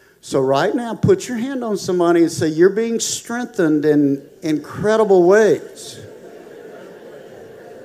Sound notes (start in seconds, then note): 6.3 congregation murmuring